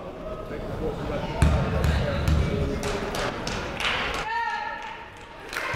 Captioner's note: people talking in the crowd